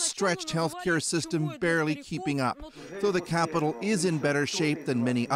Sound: speaking russian

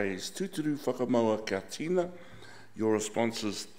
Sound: speaking in foreign language

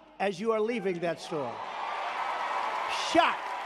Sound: audience applauding

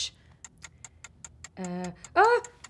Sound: clock ticking

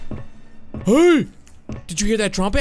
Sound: faint trumpets; groans

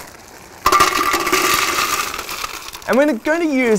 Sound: clanking sound

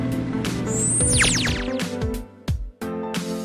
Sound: laser gun pew

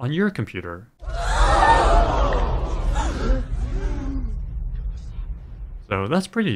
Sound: crowd gasping

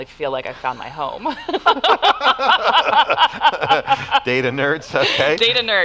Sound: laughter

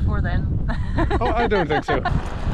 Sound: laughter

